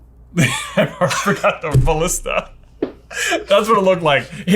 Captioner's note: chuckling; laughs